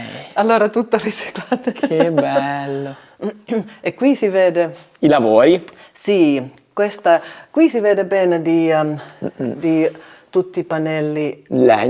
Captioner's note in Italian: risate